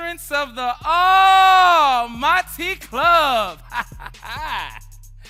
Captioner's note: laughs